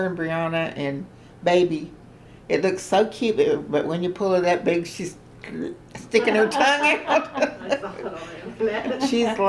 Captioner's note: laughter